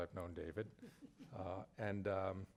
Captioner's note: participant chuckles